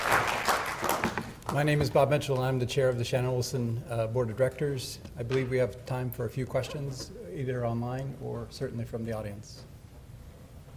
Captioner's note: applause